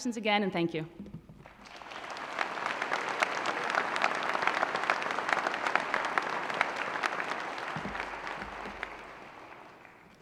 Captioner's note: applause